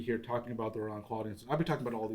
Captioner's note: non-english speech